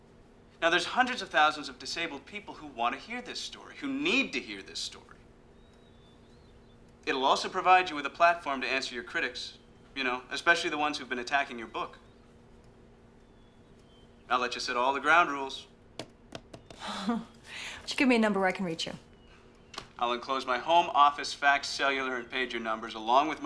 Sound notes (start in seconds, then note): 16.0 tapping on book; 16.8 chuckles